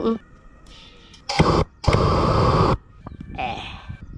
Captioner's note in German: brennerrauschen